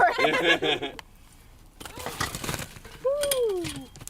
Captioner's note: laughter